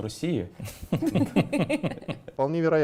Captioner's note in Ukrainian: сміх